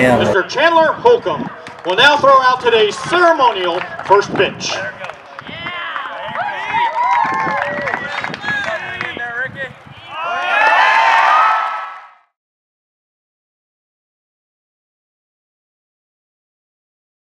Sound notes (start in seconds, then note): 4.6 cheers and applause